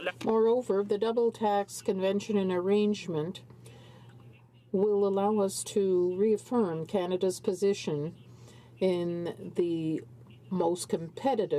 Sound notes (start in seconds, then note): 6.1 speaking in french